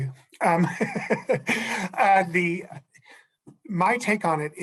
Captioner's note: laughs